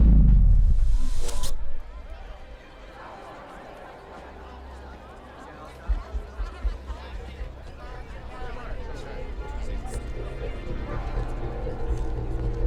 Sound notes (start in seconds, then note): 6.3 people chattering; 9.9 brooding music